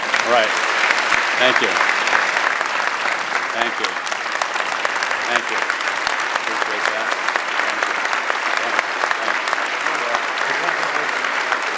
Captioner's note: applause